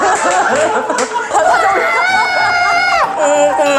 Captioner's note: shocked